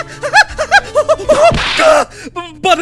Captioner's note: whip crack!